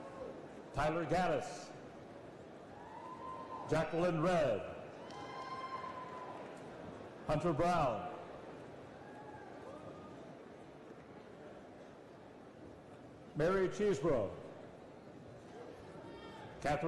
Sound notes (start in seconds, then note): 3.3 applause